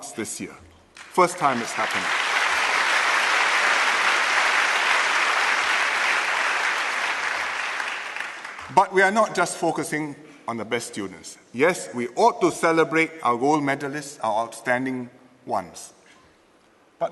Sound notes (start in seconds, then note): 1.0 applause